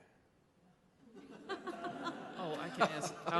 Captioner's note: laughing